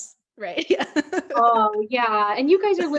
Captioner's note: laughs